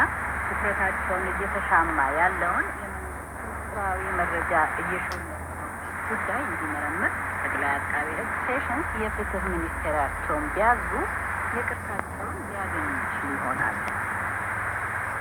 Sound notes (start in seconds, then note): 0.2 foreign language